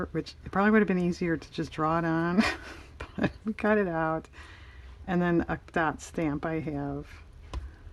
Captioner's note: laughs